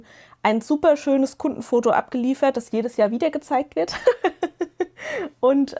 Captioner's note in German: gelächter